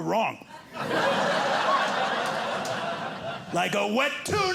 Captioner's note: audience laughing